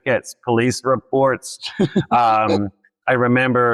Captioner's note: laughs